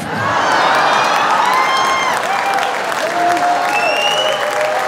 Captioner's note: audience laughing and cheering